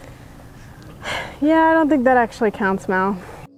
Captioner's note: sighs